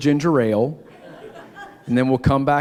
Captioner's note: laughter